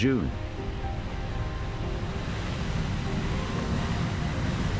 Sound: aircraft whooshes

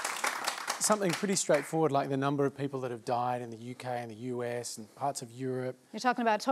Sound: applause

